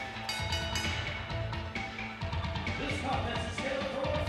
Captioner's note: bell rings